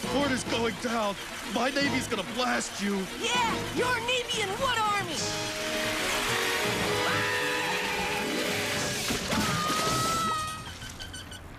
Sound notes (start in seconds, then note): 6.2 trilling yell; 9.2 screaming